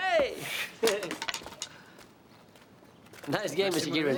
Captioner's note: laughs; tennis racket clatters